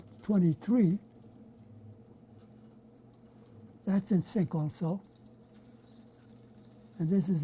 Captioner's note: pauses for 3 seconds